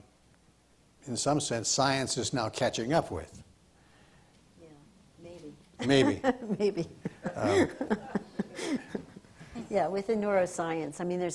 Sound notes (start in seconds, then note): 5.8 laughs